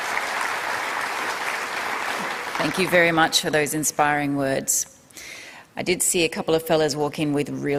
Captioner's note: applause